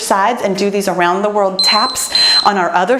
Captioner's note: timer beeps